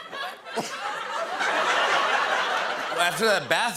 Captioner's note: laughter